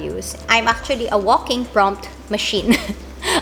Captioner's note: laugh